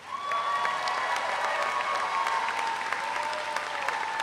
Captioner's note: audience applauds